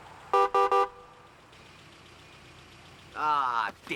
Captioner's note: horn honking